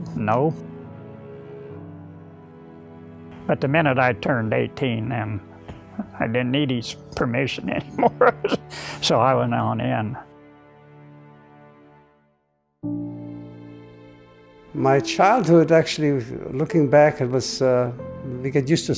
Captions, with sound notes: But the minute I turned 18 and I didn't need his permission anymore, (chuckles) so I went on in. (gentle music) - My childhood actually, looking back it was, we get used to a certain childhood,